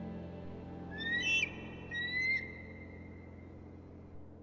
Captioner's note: eagle crying